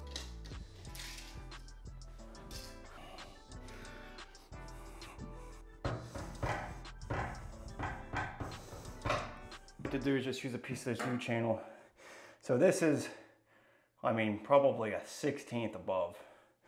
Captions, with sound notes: (foot tapping) What to do is just use a piece of this U-Channel, so this is, I mean probably a 16th above,